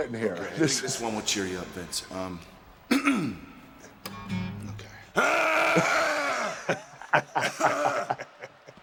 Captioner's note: cough